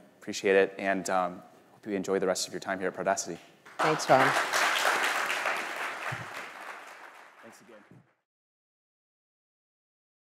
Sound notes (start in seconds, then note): 3.6 audience clapping